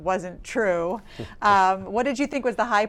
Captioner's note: laughing